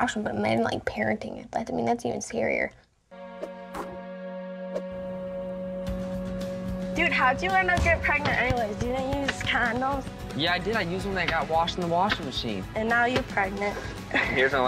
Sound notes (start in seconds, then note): 3.7 basketball swooshing